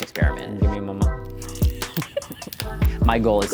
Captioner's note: laughing